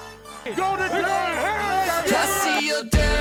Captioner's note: players Shouting